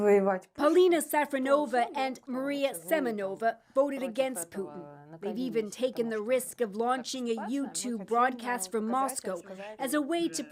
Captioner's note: speaking alternate language